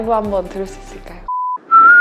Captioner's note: beep